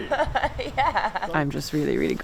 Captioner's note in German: lacht